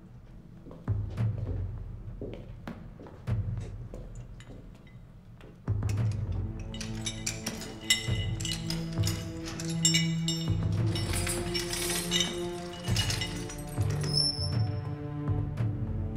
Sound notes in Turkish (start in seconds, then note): 7.2 Zincir sesi; 14.0 Kapı açılma sesi